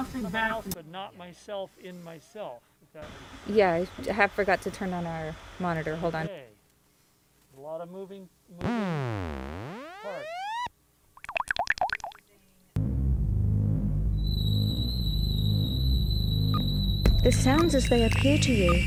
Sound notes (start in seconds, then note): 9.3 electronics whirring; 11.2 water blooping; 12.8 ominous music; 14.2 beeping